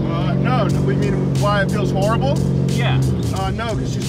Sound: none

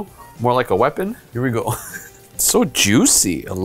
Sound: chuckles

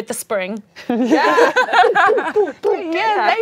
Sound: laughing

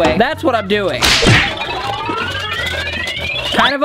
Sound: slapping

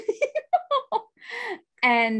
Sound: laughs

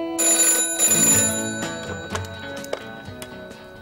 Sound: phone rings

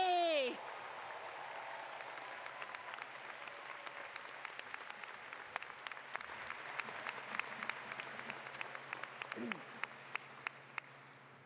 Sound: cheers and Applause

